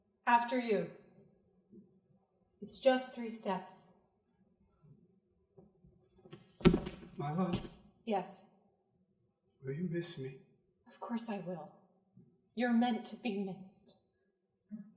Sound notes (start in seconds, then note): none